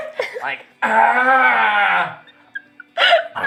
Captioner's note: Pained Arval sounds